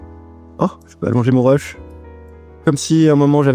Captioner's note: surprises in French